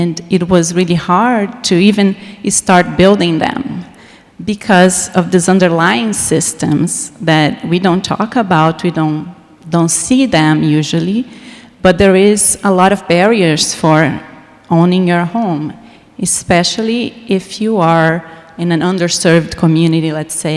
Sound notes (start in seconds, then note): none